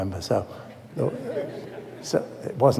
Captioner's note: laughter